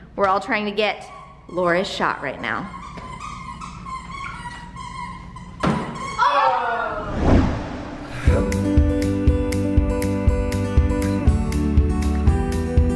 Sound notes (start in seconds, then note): 6.2 all exclaiming; 7.8 happy music